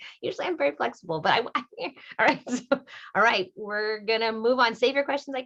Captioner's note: laughter